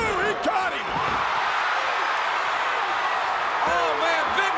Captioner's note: crowd cheering